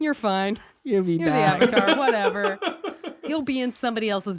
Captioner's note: laughs